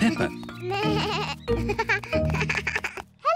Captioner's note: bleating